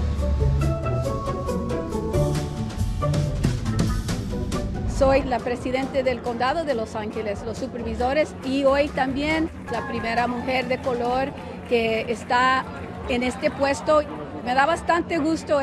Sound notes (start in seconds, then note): 5.0 Spanish